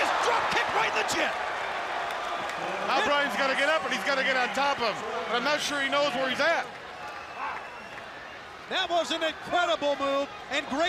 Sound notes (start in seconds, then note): 3.0 crowd cheering